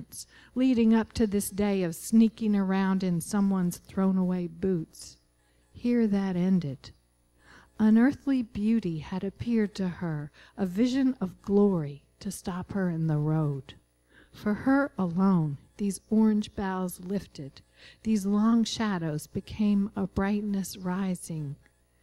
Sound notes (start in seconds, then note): none